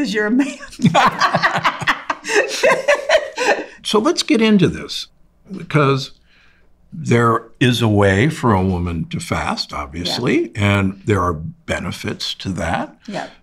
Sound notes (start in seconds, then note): 0.4 both laugh